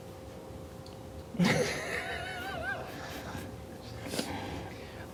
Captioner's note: cute laughing